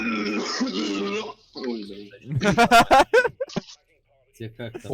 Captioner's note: laughs